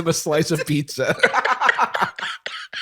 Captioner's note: laughter